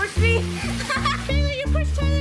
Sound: laughing

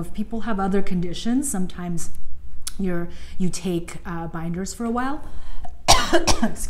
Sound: coughs

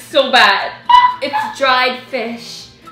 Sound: laughing

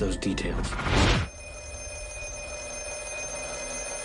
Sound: phone ringing

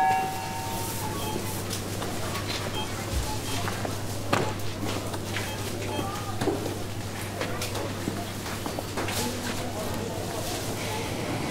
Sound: intercom beeping; cash registers beeping

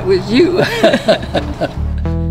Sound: laughter

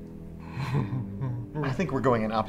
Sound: sinister laughing

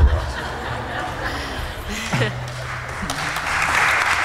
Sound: laughter; applause

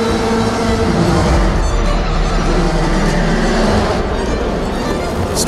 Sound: car engines revs

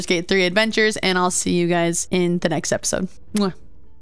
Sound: kiss

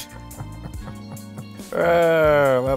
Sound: laughing

